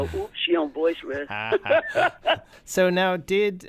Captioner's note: laughter